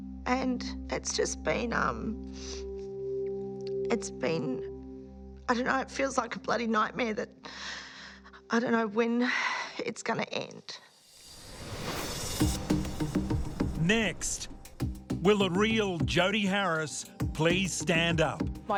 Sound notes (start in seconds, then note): 9.0 sighs; 12.4 upbeat music